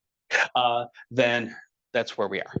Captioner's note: laughing